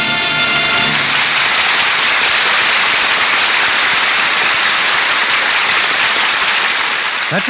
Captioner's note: applause